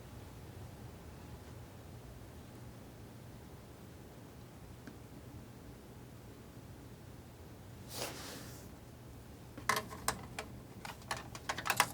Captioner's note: scratching